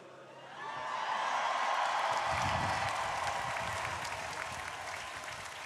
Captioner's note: crowd applauding